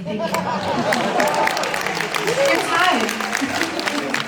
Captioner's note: audience cheers and applauds